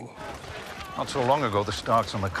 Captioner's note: crowd chatter